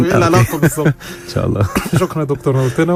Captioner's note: laughs!